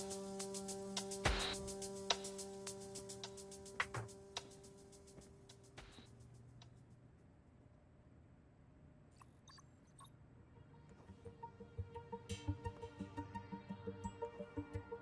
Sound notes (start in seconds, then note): 0.0 tense music continues; 9.1 tech beeping; 10.6 tense music